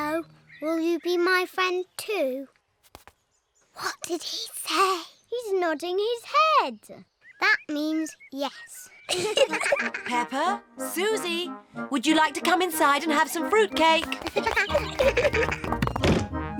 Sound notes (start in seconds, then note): 3.8 whispering; 9.0 both giggle; 14.0 both giggle